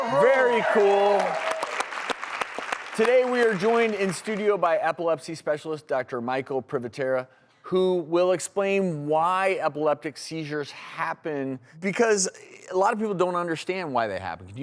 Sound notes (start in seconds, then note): 0.0 audience cheering and clapping; 0.0 audience clapping